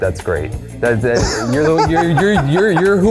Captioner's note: laughs